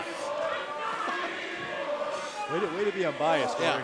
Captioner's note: crowd cheering